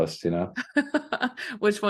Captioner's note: laughter